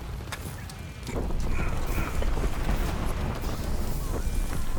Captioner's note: thunder rumbling